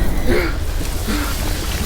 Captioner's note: Pete panting; voices squealing